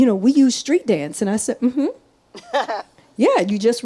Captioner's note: laughs